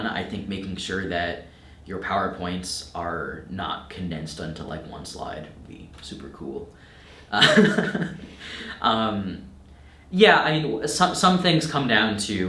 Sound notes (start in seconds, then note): 7.3 laughing